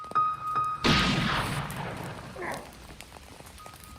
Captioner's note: gunshot